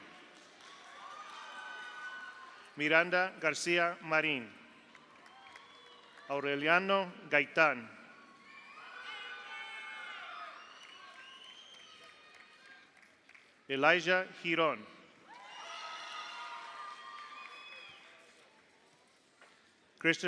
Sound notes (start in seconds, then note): 0.1 audience applauds; 0.6 audience cheers; 4.8 audience applauds; 5.1 audience cheers; 8.2 audience applauds; 8.4 audience cheers; 15.3 audience cheers; 15.3 audience applauds